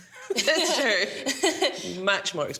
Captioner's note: laughs